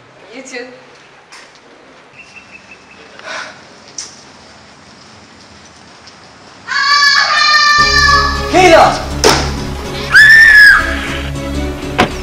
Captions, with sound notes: you too *scream and need help* Kayla! *another scream*